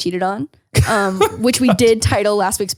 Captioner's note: laughs